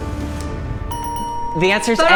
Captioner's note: suspenseful music; bells ringing